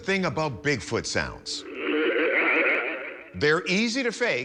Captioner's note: growling